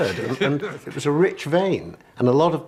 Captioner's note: laughs